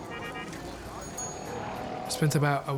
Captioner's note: horn honks